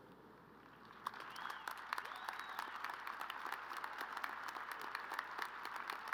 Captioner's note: crowd cheering and applauding